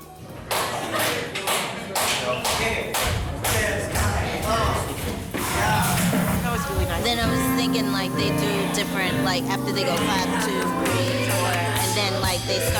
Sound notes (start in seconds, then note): 0.3 performers clapping and chattering